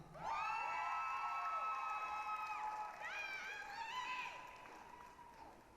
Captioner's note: applause, cheering